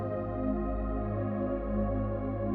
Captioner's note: none